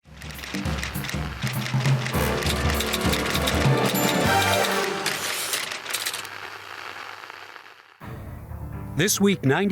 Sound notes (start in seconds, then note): 0.1 typewriter clacking; 0.3 energetic music; 8.0 serious music